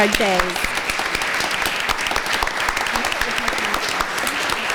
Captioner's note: applause